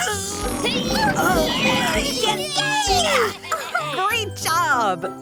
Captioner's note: groaning